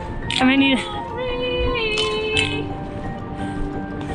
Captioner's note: yelling